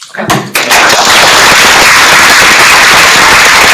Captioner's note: applause